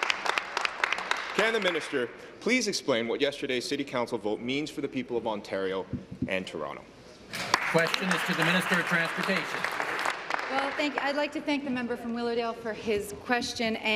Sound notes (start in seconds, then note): 1.3 applause